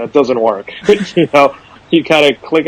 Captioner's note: both laugh